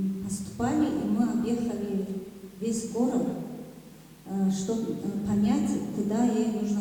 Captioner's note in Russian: none